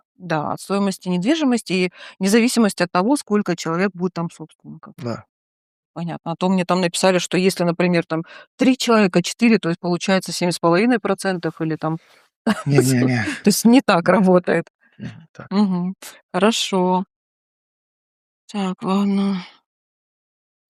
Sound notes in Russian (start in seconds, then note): 12.4 смех; 15.0 откашливается